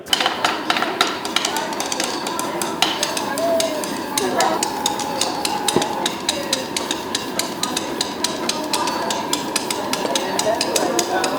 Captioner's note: drumming, the whistling of heating air